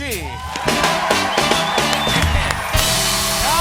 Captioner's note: cheers and applause